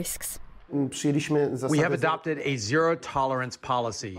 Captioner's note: through translator